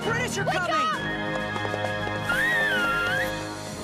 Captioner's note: revere whistles